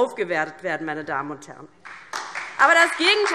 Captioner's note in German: Beifall DIE LINKE und vereinzelt SPD